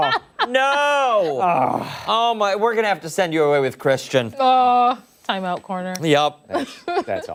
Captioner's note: laughter